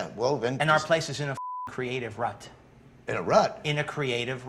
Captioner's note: beep